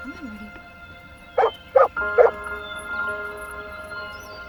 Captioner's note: barking